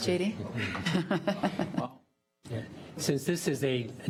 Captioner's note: laughing